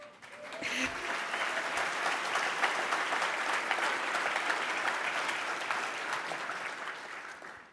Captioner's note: cheers and applause